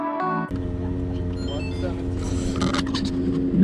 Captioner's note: lighthearted music; movement noises